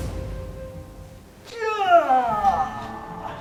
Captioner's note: argh!